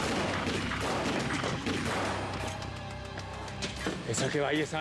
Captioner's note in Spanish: aumenta el tiroteo